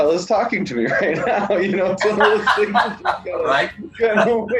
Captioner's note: laughing